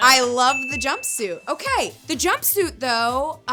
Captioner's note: bell ringing